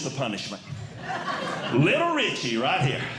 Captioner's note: audience Laughing